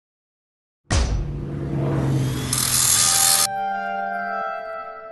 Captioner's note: whoosh, music